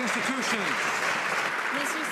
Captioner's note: some Applause